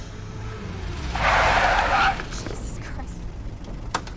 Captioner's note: tires screech